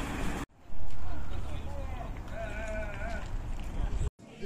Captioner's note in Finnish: puheensorinaa